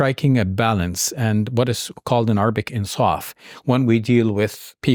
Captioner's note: speaks in Arabic